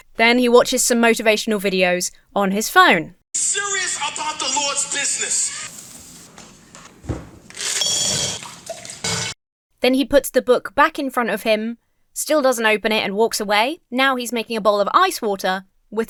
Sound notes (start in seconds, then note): 7.7 ice tinkles; 8.3 liquid sloshes